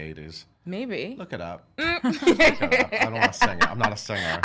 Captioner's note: laughing